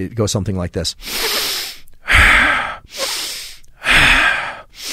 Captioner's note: Andrew deeply breathing